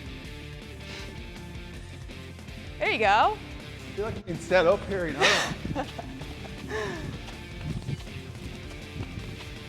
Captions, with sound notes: There you go. I feel like I'm being set up here. (Sol chuckles)